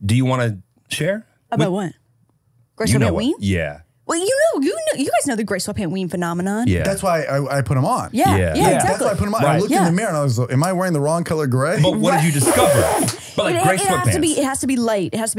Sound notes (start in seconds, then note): 11.8 laughing